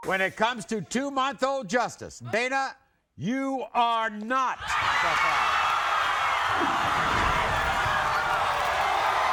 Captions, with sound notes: - When it comes to two month old, Justice, Dana, you are not the father. (audience cheers)